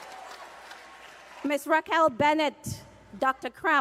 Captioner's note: cheers and applause